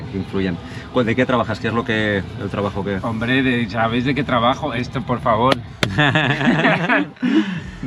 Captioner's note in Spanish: risas